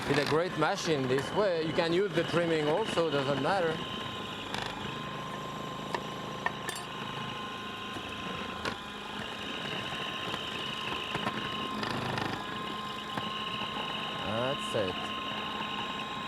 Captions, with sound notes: With a great machine, in this way, you can use the trimming also doesn't matter. (machine whirs) That's it.